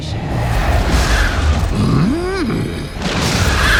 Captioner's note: thunder crashes